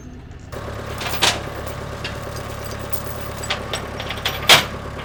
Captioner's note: engine rumbling